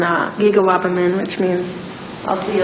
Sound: speaking in foreign language

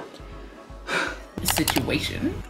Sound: exhausted exhale; "situation" audio and double mouse click

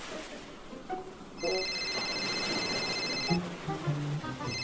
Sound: phone ringing

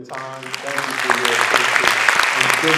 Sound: audience clapping

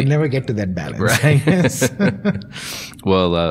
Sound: laughing

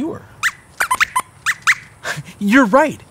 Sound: squeaks squeaks

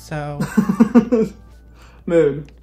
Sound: laughs

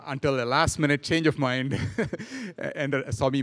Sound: laughing

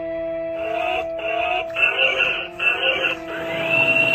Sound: robotic sound effects

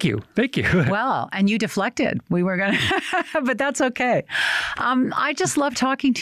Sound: laughs

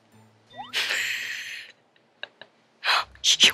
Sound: laughing

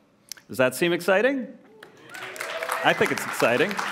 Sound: applause

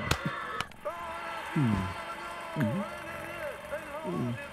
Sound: TV Channel changes - Football crowd cheering

